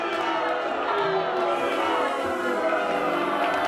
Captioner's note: booing